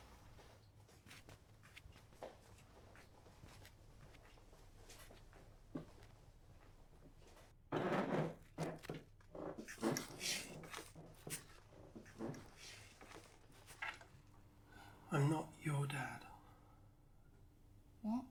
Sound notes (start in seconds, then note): 1.7 footsteps